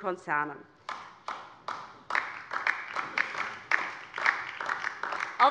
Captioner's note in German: Beifall DIE LINKEN